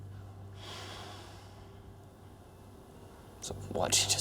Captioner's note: sighs